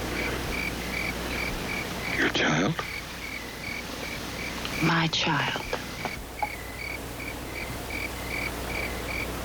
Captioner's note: bird chirping